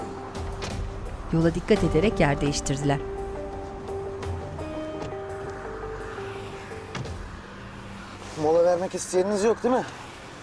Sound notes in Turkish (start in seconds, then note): 0.1 Kapı kapanma sesi; 1.5 Kapı açılma sesi; 6.9 Kapı kapanma sesi